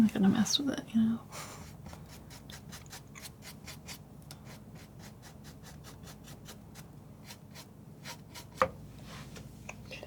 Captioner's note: silence